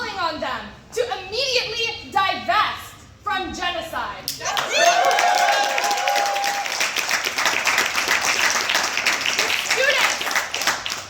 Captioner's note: applause